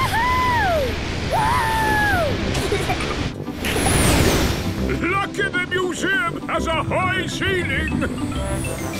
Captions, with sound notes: - Wooohooo!! - (rocket thrusting) - Lucky the museum has a high ceiling!